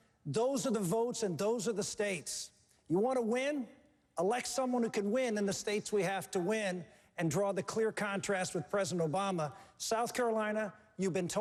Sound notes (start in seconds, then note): none